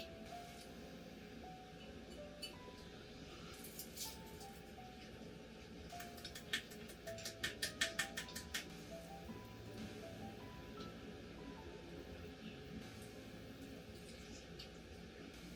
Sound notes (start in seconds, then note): 7.1 applause